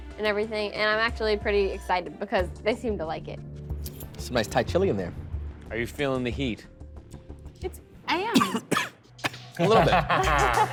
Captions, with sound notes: and I'm pretty excited because they seem to like it. Some nice Thai chili in there. Are you feeling the heat? -It's... I am. -[coughing] -A little bit. -[laughing]